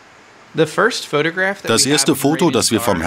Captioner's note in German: englisch